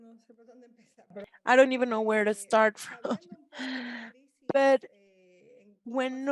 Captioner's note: chuckles